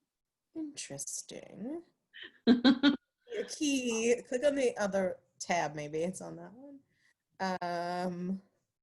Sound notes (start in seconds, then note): 2.3 laughs